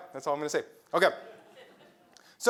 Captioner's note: laugh